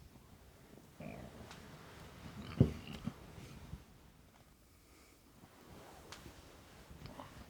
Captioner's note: grunts